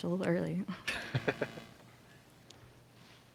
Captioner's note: chuckles